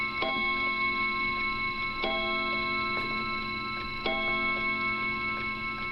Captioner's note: clock chiming continues